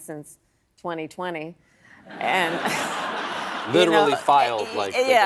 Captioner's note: laughter